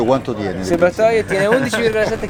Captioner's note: laugh